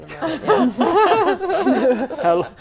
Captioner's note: laughing